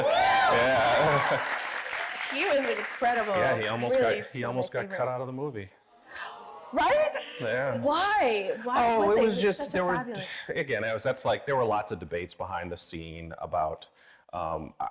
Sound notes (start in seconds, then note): 0.0 audience applauding; 0.1 laughing; 6.1 audience gasping